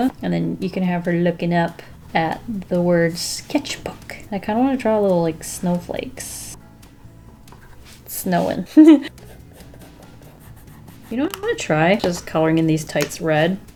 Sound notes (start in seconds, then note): 8.6 laughs